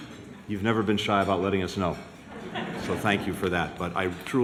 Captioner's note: laughter